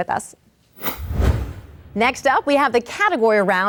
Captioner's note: logo swooshes